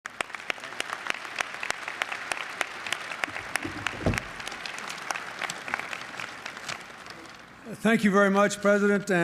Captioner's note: applause